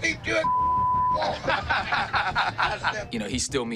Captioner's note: laughter